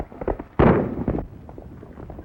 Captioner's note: gunshot